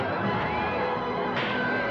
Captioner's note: thump; suspenseful music; commotion & chaos